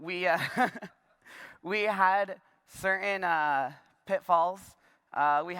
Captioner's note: laughter